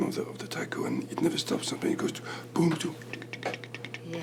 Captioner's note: imitates small drum